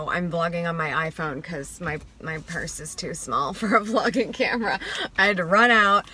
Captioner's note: laughs